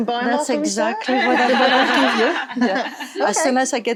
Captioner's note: all laughing